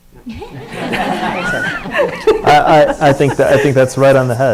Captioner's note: audience laughs